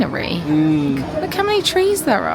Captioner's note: grunting